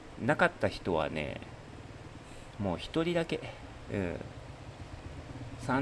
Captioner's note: none